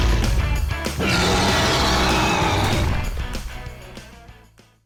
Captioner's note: T-Rex roaring